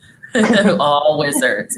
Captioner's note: laughing